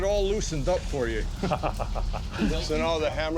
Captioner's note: chuckles